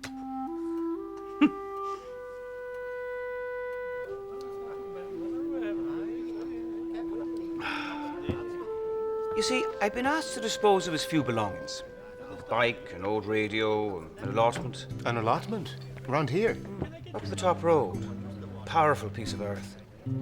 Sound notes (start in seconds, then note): 1.2 laughing; 4.1 people chattering